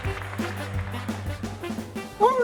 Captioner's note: clapping